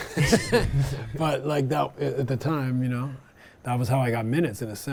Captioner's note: laughs